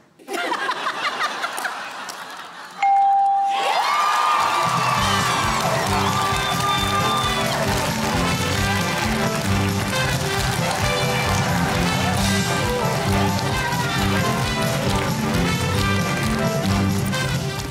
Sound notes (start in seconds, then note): 0.1 laughter; 3.6 cheering and applause